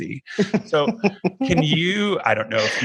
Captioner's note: laughing